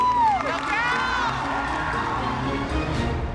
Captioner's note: cheering